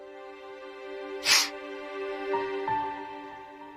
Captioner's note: sniffles